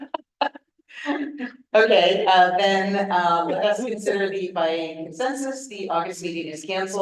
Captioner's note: laughs